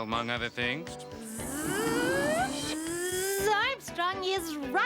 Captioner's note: Tizzy buzzing